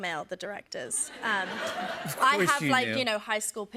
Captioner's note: laughter